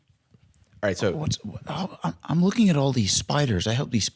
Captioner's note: stammering